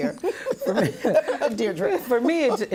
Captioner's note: laughter